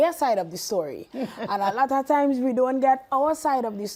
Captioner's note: laughing